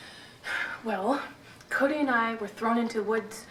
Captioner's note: sighs